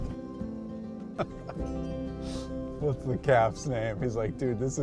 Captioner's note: pleasant guitar music; chuckles